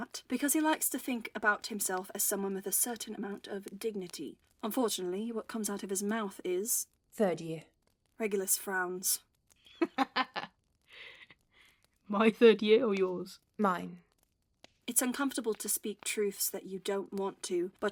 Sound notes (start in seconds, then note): 9.8 James laughs